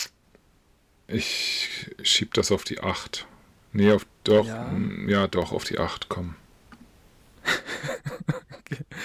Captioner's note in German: gelächter